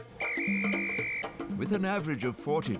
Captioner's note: whistle tweeting